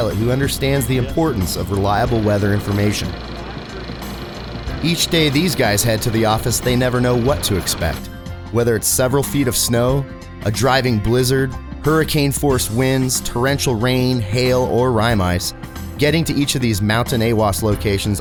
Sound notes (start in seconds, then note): 3.3 machine running